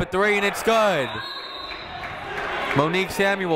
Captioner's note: whistle tweeting